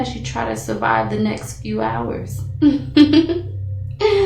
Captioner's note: laughs